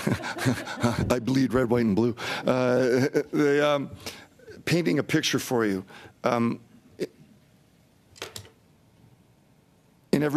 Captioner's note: laughter